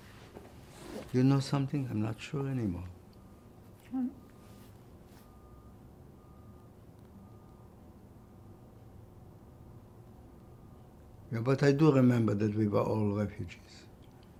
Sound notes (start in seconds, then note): 4.8 pauses 6 seconds